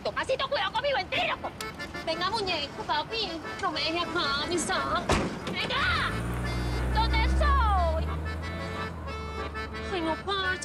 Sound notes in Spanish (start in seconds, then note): 5.0 Sonido al cerrar la puerta; 5.2 Sonido al acelerar el motor